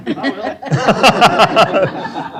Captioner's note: laughter